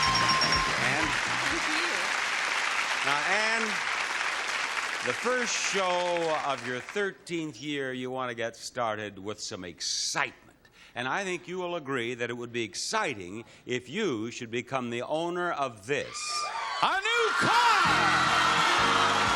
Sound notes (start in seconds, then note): 4.3 audience applauding; 17.6 upbeat music; 18.8 audience applauding